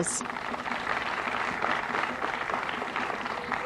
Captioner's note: applause